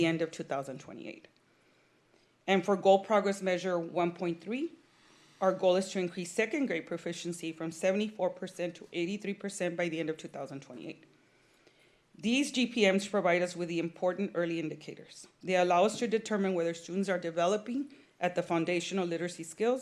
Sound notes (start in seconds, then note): none